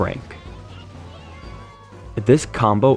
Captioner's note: epic colette super sound effects